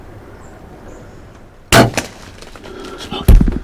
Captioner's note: sound of bowshot